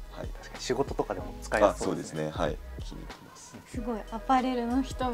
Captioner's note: laughs